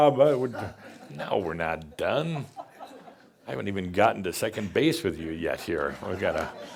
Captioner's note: a few chuckles